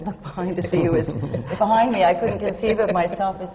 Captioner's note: laughter